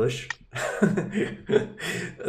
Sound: laughing

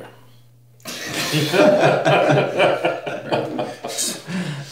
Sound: group laughing

